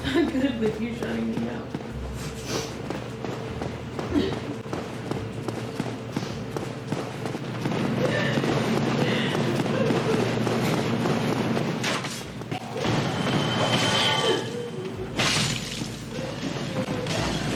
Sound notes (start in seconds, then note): 4.0 crying; 7.9 continues crying